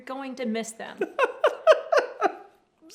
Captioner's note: laughing